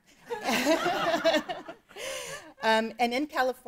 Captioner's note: laughing